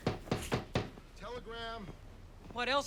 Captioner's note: knock on door